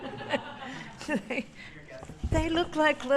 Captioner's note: laughter